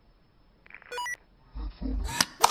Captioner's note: comms Beeping